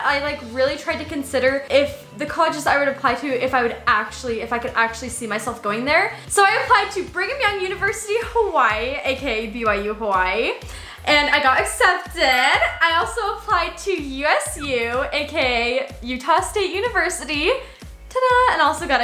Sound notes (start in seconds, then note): 12.2 ding